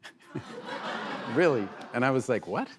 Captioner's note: laughter